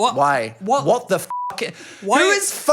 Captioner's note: beep